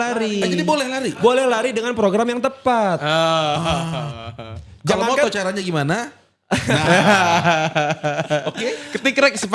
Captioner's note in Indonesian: tertawa